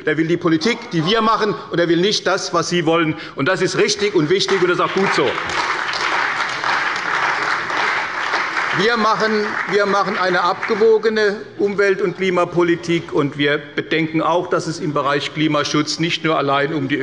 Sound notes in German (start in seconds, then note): 4.3 Beifall bei der CDU und dem BÜNDNIS 90/DIE GRÜNEN